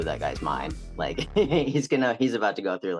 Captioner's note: laughs